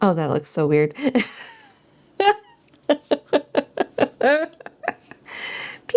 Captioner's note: laughs